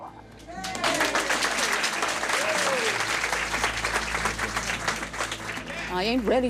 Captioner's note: cheers and applause